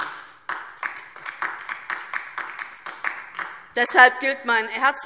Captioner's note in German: Beifall DIE LINKE